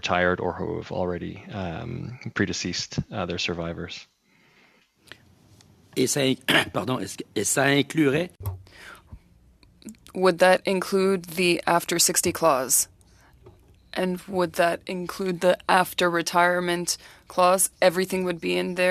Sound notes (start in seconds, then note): 10.9 speaking French